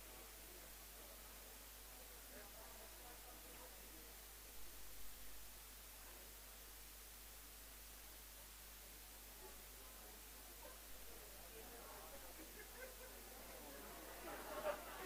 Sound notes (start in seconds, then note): 2.4 background chatter; 10.7 background chatter